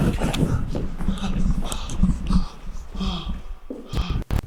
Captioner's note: Jacob panting; static flipping